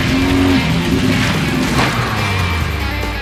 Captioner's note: crunching gravel